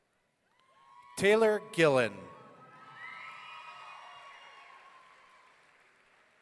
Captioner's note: audience cheering